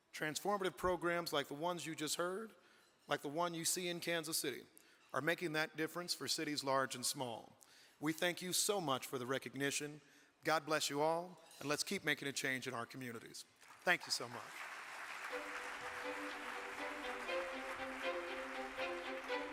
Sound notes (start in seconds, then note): 13.6 audience clapping; 15.3 exciting music